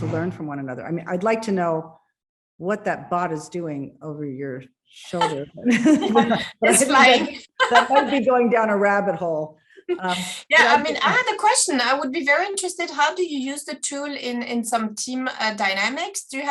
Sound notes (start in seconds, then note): 5.2 chuckles